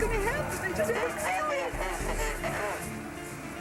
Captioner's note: static drowns out